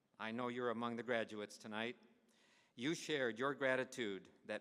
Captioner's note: none